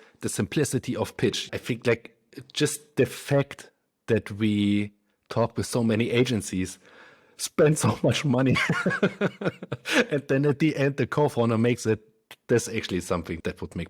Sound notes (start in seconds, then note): 8.4 laughs